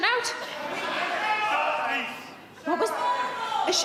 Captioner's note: audiences shouting